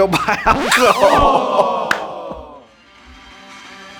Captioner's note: laughter